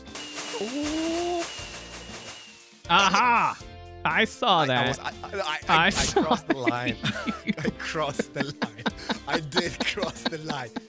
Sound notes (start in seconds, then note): 5.7 laughs; 6.6 stammers; 10.5 laughing